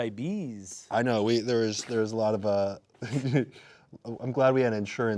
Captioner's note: giggling